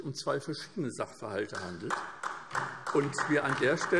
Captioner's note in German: Beifall SPD und DIE LINKE